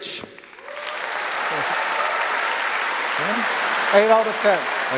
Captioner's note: applause